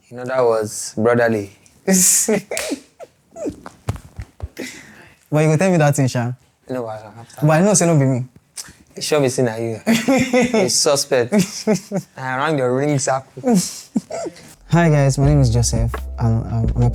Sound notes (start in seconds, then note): 2.1 laughs; 9.7 laughs